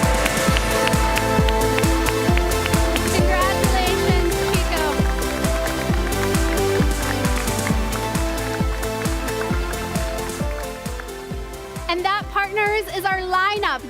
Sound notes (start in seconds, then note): 6.1 cheers and applause